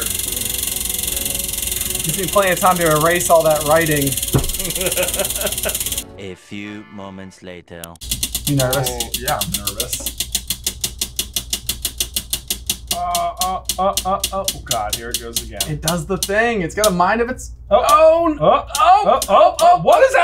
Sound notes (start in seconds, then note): 2.4 wheel spinning